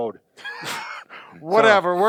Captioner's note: both laughing